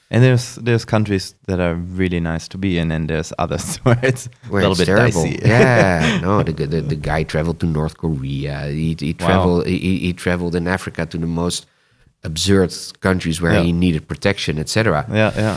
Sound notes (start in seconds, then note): 3.5 laughs